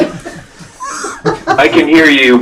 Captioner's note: laughter